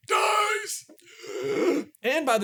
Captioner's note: deep hoarse gasp